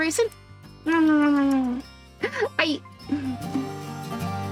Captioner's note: kisses